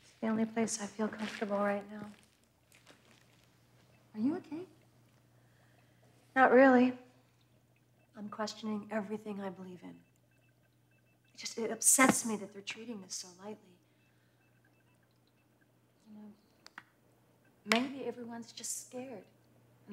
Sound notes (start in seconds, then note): none